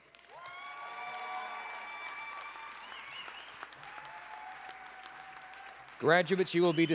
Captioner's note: applause, cheering